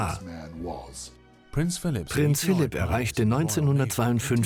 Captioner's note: voiceover